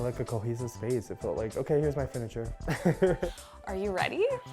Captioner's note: laughs